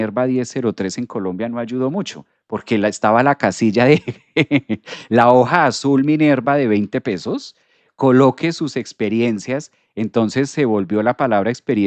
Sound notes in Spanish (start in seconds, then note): 3.9 risas